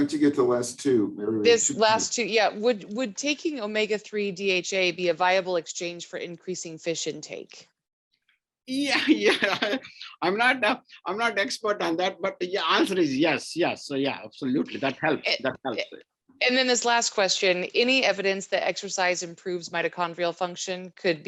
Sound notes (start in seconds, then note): 8.9 laughs